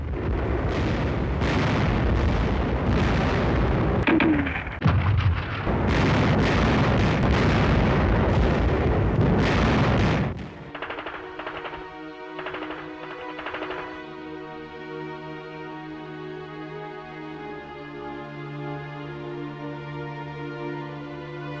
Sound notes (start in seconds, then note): 0.1 artillery firing; 10.5 automatic guns firing; 11.4 sad music